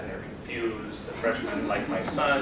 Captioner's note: laughter